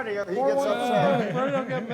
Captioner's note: everyone laughs